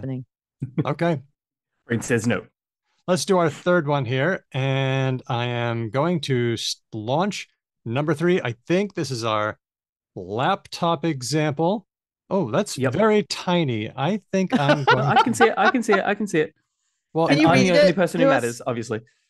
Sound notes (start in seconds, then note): 14.6 laughs